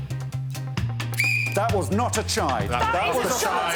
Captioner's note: Alex blows whistle